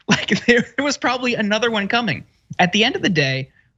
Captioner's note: laugh